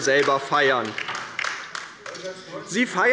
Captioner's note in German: Beifall bei der LINKEN